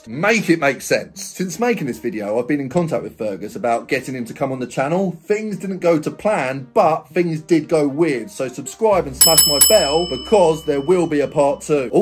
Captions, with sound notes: Make it make sense. Since making this video, I've been in contact with Fergus about getting him to come on the channel. Things didn't go to plan, but things did go weird. So subscribe and smash my bell (bell rings) because there will be a part two.